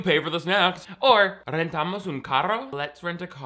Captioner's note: speaking in foreign language